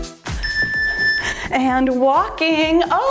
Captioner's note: timer beeps